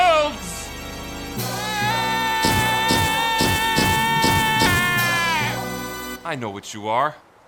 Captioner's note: Gaylord_Steambath wails maniacally